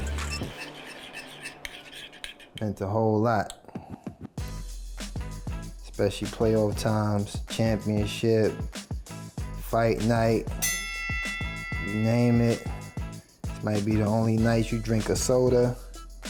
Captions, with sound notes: (dish scrapes) meant a whole lot. (upbeat music) Especially play all the times, championship, fight night. (bell dings) You name it. This might be the only night you drink a soda,